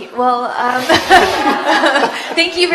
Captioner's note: laughter